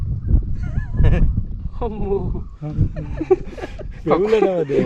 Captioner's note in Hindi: हंसते हुए